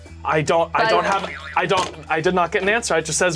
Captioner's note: buzzer springs